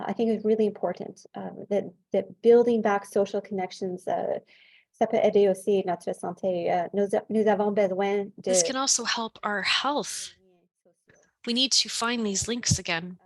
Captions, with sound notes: I think it's really important that that building back social connections [French], this can also help our health. We need to find these links again.